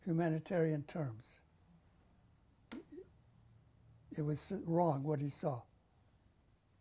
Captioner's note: pauses for 3 seconds